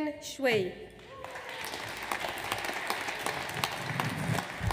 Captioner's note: audience applauds